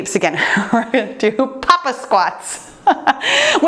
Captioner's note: laughs